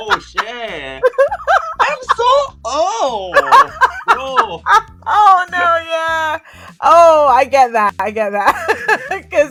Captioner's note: laughter